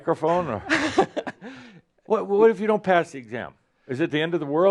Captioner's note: chuckles